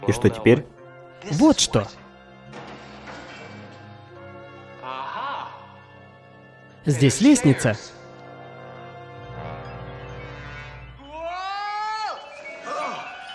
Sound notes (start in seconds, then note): 11.2 Frank yelling